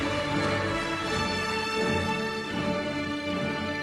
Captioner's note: applauding